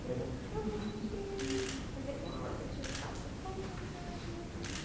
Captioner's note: camera shutter clicking